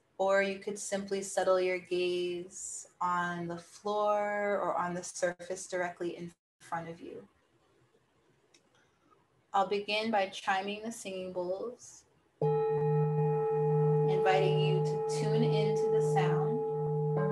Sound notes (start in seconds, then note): 12.4 bowl dings